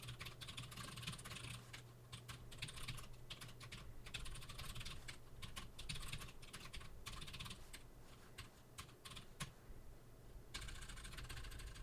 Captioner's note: typing sounds